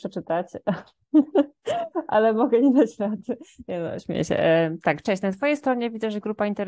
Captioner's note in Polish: śmiech